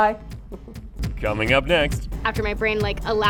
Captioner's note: male Voice